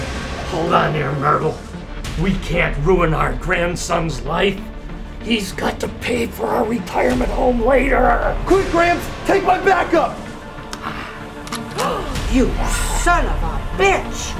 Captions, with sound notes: - Hold on there, Myrtle. We can't ruin our grandson's life. He's got to pay for our retirement home later. - Quick, Gramps! Take my backup! (phone cocks) - (gasps) You son of a bitch.